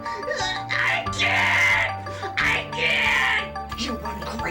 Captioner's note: screams